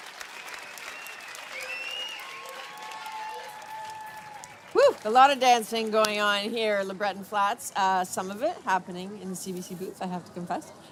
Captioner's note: applause